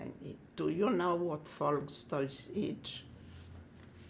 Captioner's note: german